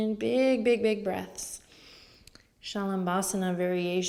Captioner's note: inhales